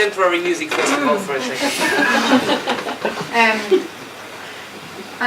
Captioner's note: audience chuckling